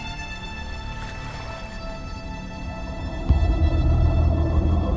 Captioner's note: water warbling